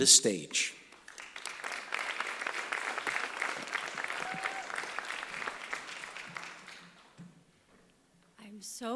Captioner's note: applause